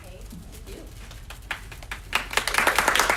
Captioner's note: applause